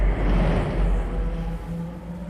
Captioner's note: whooshing